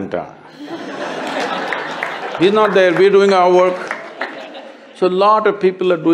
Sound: laughter/Applause

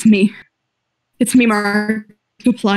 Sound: glitching

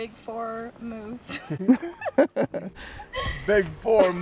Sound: laughter

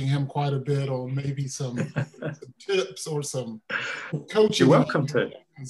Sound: laughing

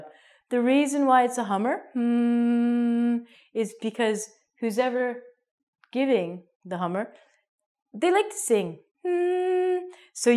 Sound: hums

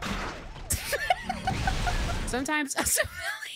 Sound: laughing

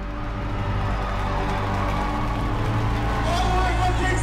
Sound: audience roaring happily

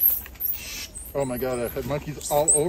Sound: monkeys screeching

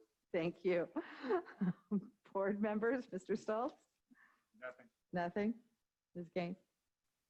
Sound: giggle; giggling

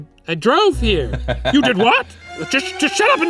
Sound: laughing

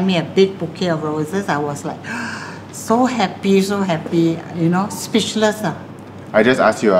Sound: gasp

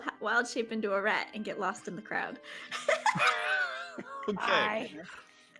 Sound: Penelope giggles

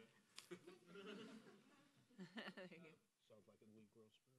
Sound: laughing

